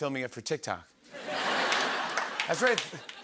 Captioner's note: laughter